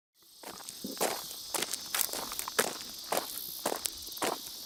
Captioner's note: footsteps rustling